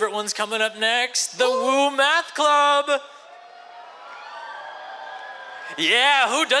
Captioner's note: cheers